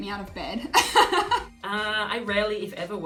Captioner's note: laughing